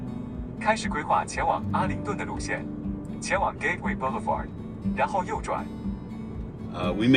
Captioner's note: GPS speaking in Mandarin